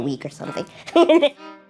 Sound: laughs

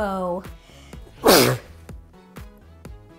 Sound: sneeze

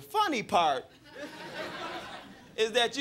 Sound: crowd laughing

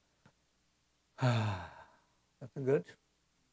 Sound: exhales

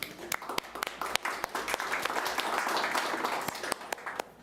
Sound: applauding

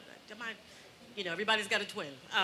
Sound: stammering

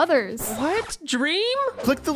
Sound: record scratch

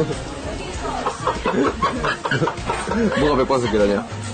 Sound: laughs; staff laugh

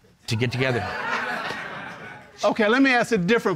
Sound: audience laughing

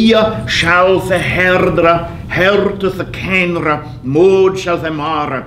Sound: speaking in foreign language

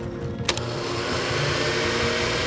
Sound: blender running

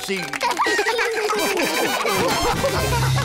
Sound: all laugh

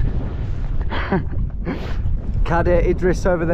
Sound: laughs

